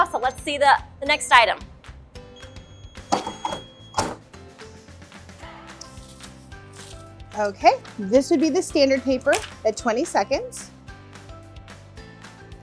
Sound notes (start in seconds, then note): 2.4 electronic beeping